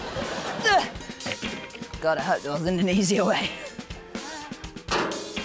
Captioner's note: laughter; grunts; clang!